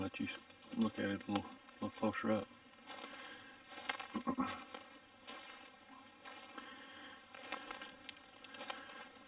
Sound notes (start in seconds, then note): 4.1 throat clearing; 6.1 leaves crunching